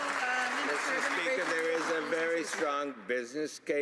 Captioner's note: some Applause